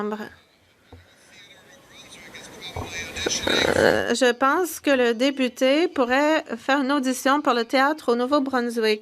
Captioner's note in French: voix de l'interprète